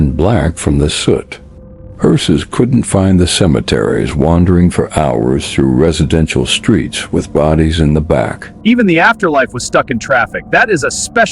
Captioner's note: sarcastic Commentary